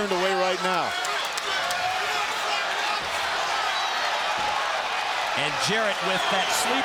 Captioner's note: crowd cheering